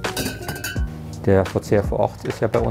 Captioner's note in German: Klirren